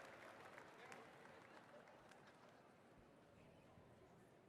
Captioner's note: applause